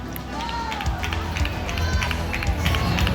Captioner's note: applause